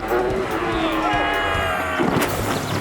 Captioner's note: ATV engine revs; screams; ATV thuds